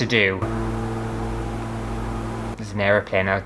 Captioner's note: airplane Engine